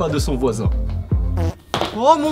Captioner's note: fart